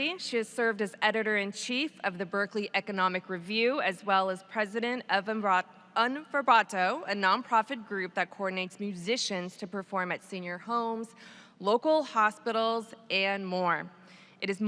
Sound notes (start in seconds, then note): none